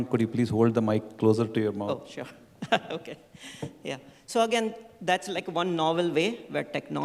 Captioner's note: laughter